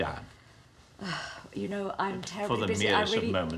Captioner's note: sighs